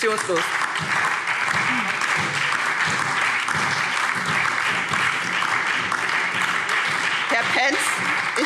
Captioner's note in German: Beifall SPD und DIE LINKE